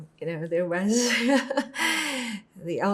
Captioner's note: laughing